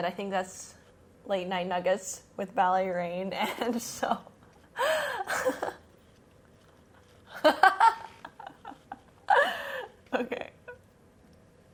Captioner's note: laughs